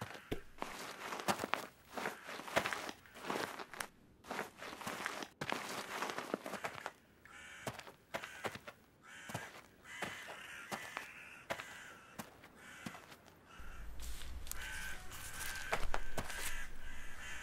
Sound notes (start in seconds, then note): 8.9 crows cawing